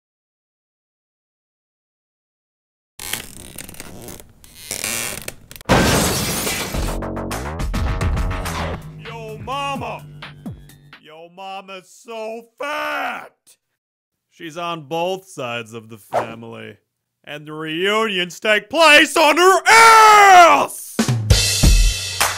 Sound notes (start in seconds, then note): 5.6 crash